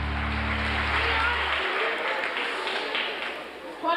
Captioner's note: people applauding